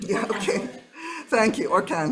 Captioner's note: audience laughing